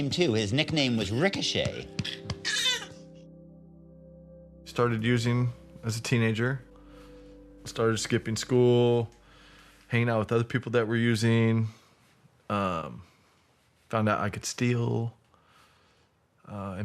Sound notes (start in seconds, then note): 2.7 whining